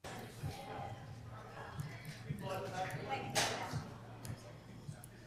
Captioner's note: people chattering